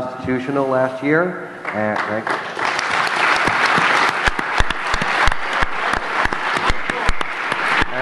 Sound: applause

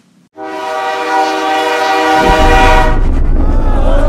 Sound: train whistle blares

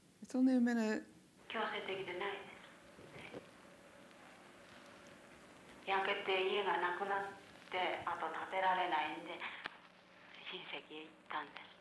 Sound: non-english speech

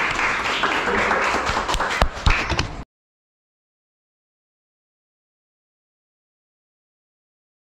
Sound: applause

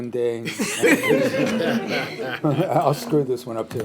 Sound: chuckles

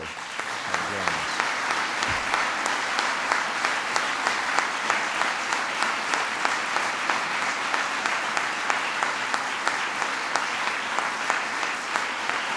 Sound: applause

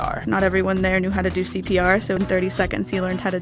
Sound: voiceover

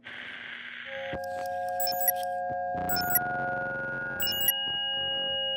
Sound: beeping sound

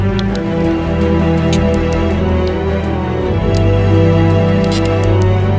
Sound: crackling bones

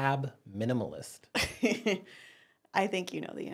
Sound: laughing

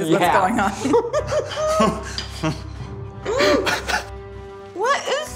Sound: laughing

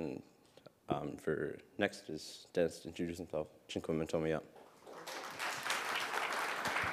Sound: speaks in Sk1wx1wu7mesh; audience clapping

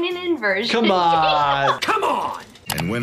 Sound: laughing

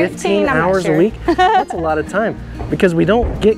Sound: coach laughs

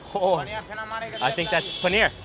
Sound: speaking foreign language

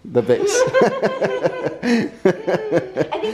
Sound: laughing

